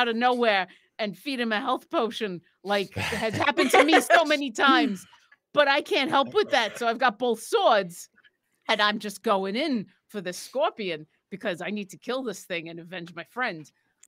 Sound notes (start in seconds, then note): 2.9 laughing; 6.0 laughing